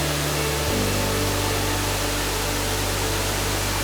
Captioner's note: roaring waterfall